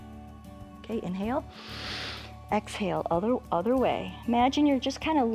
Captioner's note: inhales